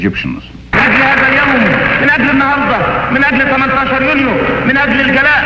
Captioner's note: speaking in foreign language